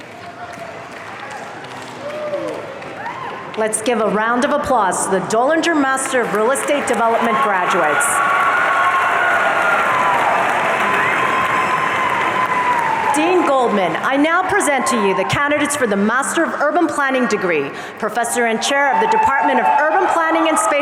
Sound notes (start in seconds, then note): 0.0 audience applauding; 8.4 audience cheering